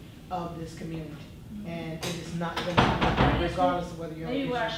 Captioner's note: door slams